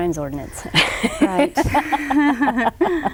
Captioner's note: both laugh